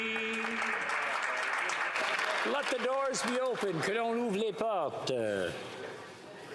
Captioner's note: applause